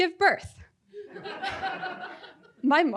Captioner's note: audience laughing